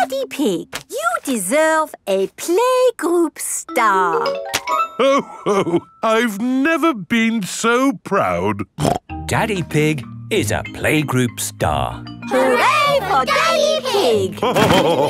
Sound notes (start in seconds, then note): 8.8 snorts